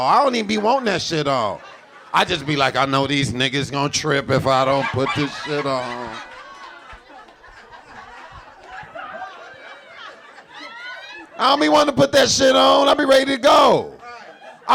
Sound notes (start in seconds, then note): 7.2 audience laughing